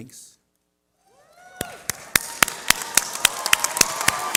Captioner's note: cheering